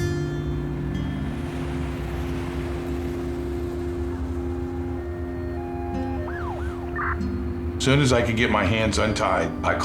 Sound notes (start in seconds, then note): 1.0 distant traffic passing; 5.5 distant siren